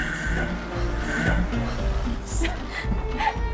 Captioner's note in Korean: 부아앙